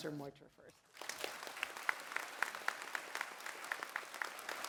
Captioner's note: applause